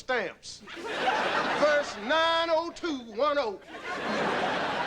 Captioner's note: audience laughing